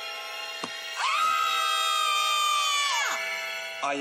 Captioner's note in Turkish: Çığlık atarlar